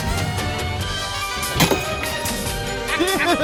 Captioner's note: Caprice spits; laughs